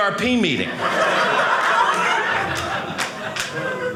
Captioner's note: audience laughing